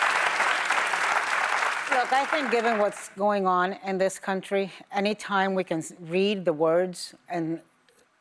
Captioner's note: applause